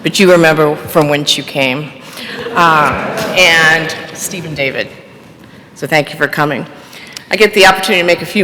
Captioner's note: laughter